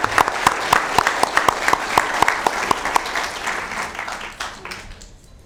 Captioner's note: applause